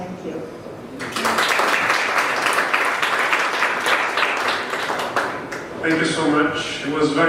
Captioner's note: applause